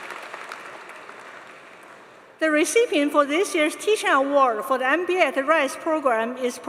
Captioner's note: applause